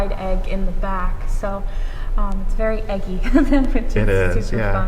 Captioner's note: laughs